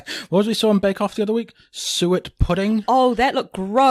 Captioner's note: laughs